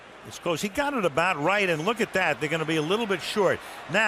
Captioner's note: cheering